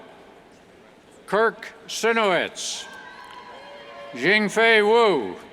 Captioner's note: cheers